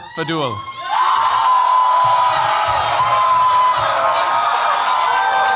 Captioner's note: cheers, applause